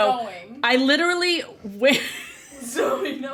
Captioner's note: laughs